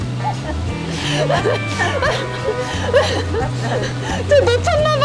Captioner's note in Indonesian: tertawa